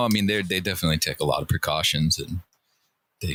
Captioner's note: none